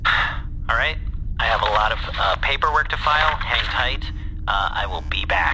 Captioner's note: sigh